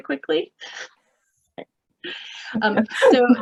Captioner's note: laughing